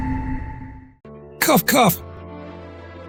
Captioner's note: cough, cough!